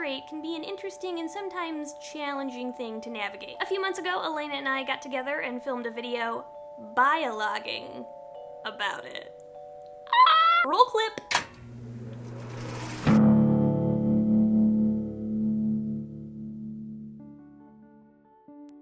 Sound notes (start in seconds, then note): 10.1 squeaky 'I just made a pun' laugh; 11.4 sound effects, camera/slideshow warming up; 14.0 transition music